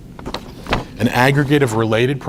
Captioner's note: rustles papers